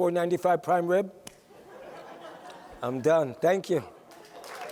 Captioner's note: laughter; applause